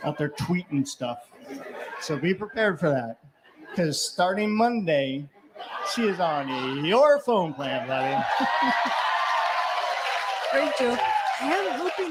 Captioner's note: laughter & cheering